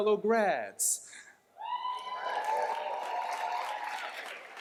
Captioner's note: cheers, applause